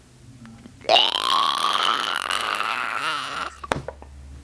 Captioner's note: gargling Noise